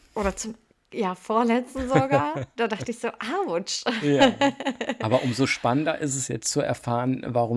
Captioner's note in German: gelächter